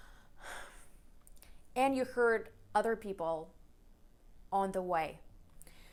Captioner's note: sighs